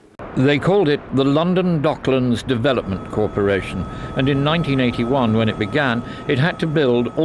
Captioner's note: newsreel audio